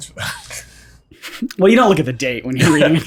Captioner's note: all chuckle